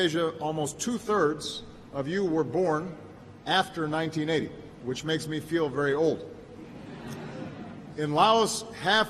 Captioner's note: laughter